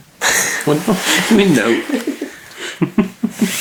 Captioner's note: laughs